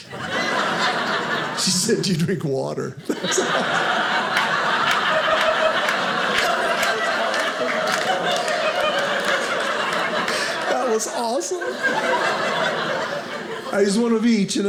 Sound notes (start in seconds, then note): 0.0 audience laughing